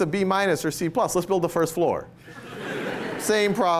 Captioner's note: laughter